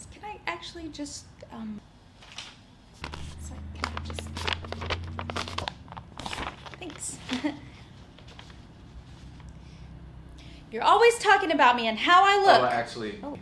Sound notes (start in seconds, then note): 3.0 paper crunching